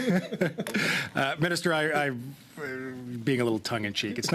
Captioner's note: laughter